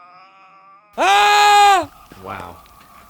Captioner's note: man screaming